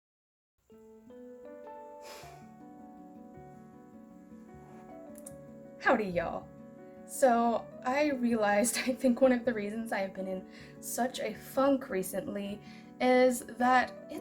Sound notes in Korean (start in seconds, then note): 2.0 한숨